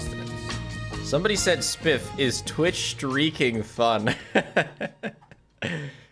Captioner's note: laughs